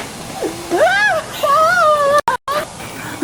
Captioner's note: Leona screams